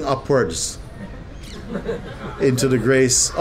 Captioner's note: laughter